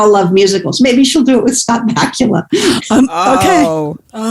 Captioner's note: guffaw